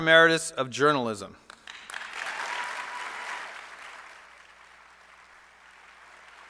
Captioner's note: applause